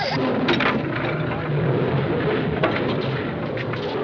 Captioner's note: both Laughing; lions Growling